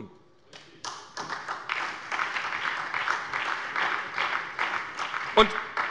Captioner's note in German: Beifall bei der SPD